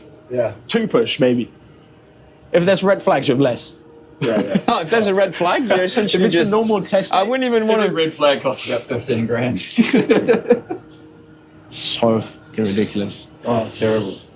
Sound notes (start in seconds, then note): 9.6 laughter